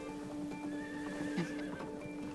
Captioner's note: horse whinnies